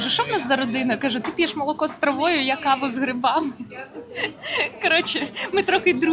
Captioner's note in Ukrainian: сміх